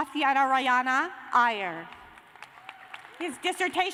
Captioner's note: cheers and applause